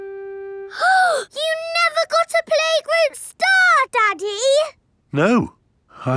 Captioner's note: gasps